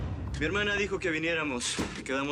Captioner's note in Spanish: none